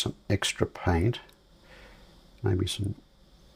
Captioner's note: silence